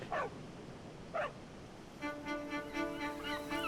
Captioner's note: dogs barking; light suspenseful music; birds cawing